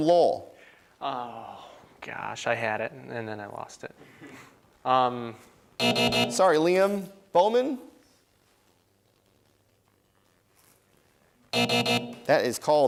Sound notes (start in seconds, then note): 1.2 sighs; 5.8 buzzing; 11.5 buzzing